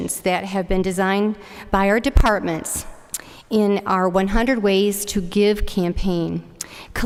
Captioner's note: none